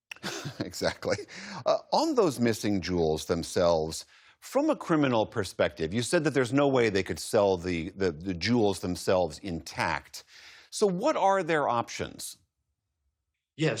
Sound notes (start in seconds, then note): 0.2 laughter